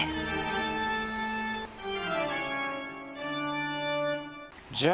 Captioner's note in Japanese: 効果音